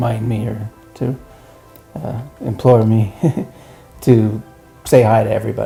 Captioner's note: laughs